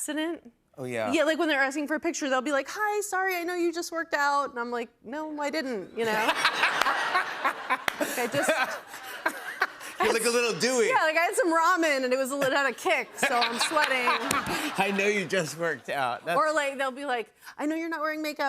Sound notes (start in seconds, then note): 6.1 laughter